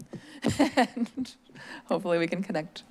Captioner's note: chuckles